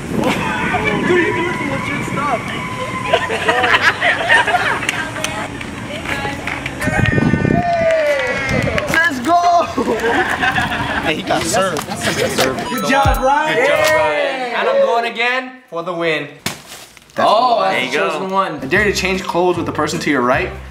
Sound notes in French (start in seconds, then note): 3.0 Rires; 7.5 Applaudissements